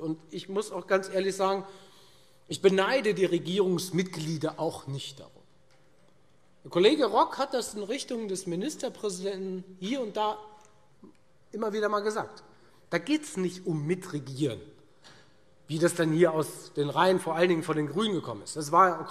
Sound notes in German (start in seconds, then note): none